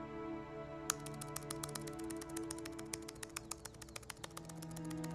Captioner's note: brooding pensive music; keyboard clicking